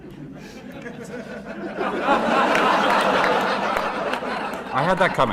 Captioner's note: laughter